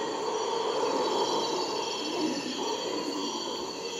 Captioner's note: screams of howler monkeys